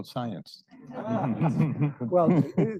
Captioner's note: all laughing